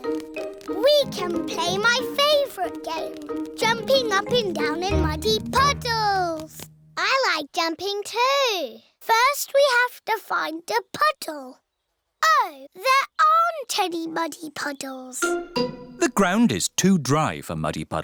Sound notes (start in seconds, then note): none